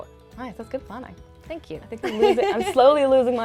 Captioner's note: laughing